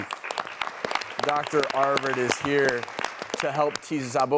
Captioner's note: audience applause